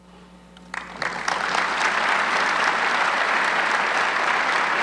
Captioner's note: audience clapping